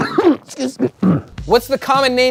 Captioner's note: coughs